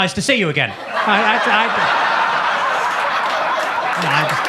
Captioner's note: audience laughs